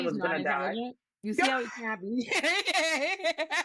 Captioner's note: laughing